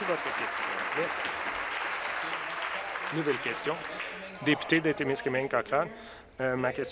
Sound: applause

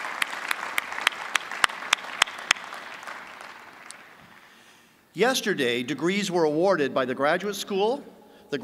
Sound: applause

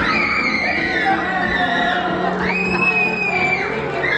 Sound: kids screaming

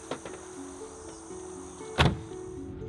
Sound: door closes; tires on rough road

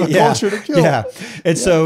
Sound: both laughing

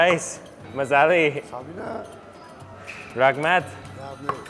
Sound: in foreign language

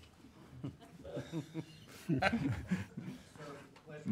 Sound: laughing

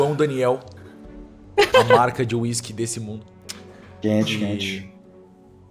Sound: laughs

